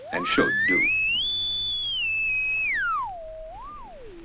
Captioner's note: radio signal